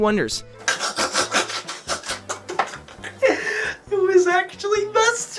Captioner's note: snickers